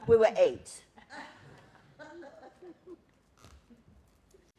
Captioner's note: laughter